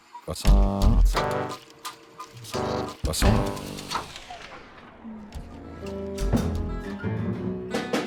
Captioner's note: voice singsong-y; voice crisp; country music